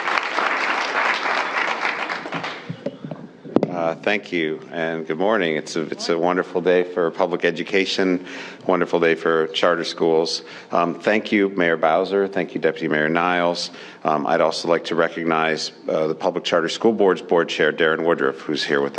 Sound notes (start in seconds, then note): 3.7 appuse